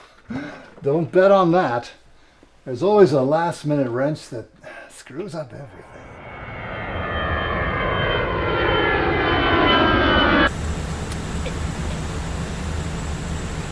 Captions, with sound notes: - (chuckles) Don't bet on that. There's always a last minute wrench that screws up everything. (plane engine whirring) (child softly laughs)